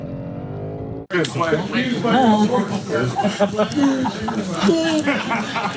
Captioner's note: engine roaring; people chattering